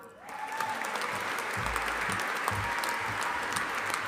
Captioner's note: audience applauding